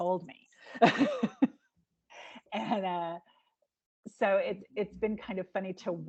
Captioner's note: laughing